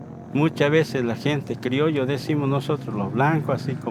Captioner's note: speaking Spanish